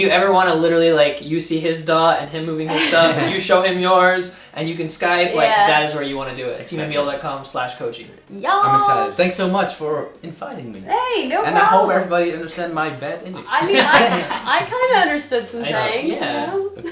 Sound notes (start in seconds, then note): 2.7 laughing; 16.6 laughing